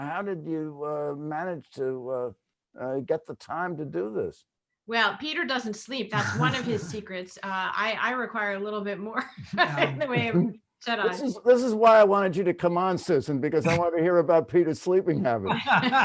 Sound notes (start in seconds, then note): 9.5 laughs